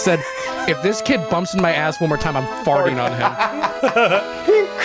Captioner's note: laughs